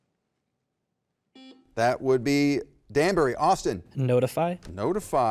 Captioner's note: button beeping